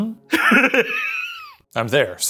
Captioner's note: laughing